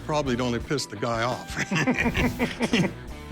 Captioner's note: laughing